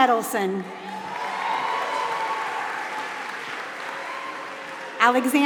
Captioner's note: applause